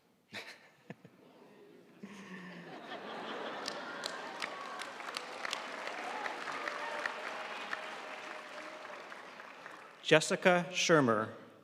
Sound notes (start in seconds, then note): 2.0 audience laughing; 5.9 audience applauding